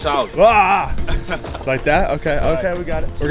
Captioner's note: laughing amusingly